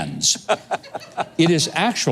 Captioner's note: laughs